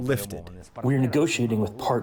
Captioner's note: through translator